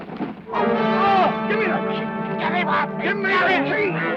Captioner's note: groans